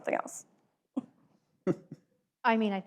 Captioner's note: laughs